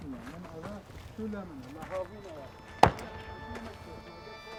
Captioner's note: weapons firing in distance